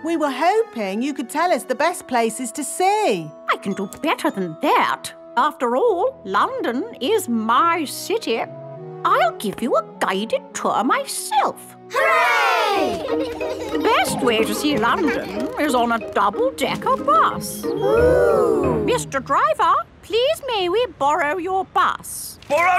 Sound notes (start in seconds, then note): 12.9 giggling; 17.8 kids gasps in awe